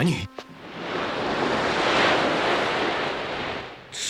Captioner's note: the sound of waves